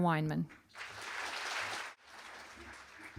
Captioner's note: applause